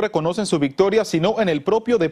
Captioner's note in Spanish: habla en ingés